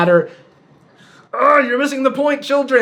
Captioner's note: groans